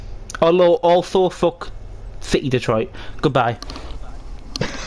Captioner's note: chuckles